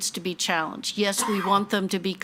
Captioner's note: attendee coughing